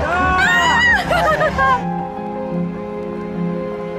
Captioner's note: screams